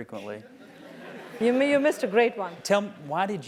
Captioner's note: laugh